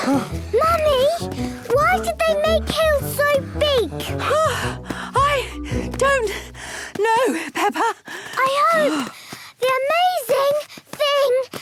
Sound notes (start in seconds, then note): 0.0 panting; 4.2 panting